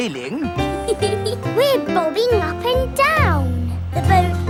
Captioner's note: giggles